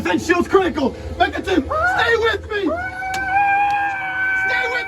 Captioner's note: screaming